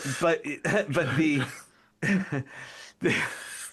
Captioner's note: laughing